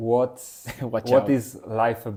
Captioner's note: laughs